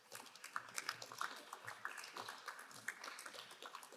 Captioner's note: crowd applauding